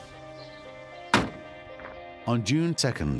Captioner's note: car door shuts closed